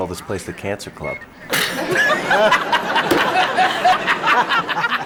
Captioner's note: raucous laughter